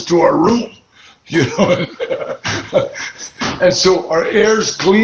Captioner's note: laughs